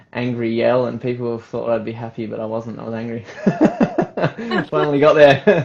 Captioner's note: laughs